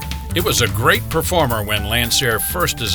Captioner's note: voiceover